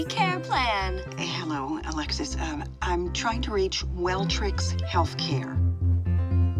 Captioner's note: woman on phone